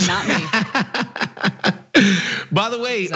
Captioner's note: laugh